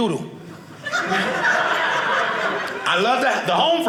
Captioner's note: audience laughing